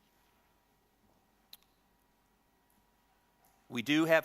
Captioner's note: silence